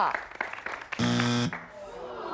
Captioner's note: buzz